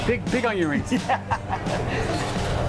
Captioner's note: laughs